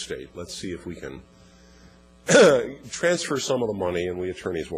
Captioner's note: cough